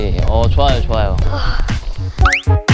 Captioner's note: sigh